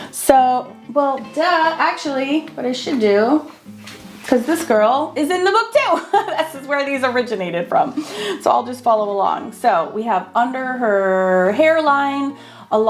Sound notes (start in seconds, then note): 5.9 laughing